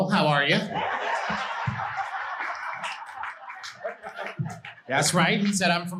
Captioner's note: audience laughing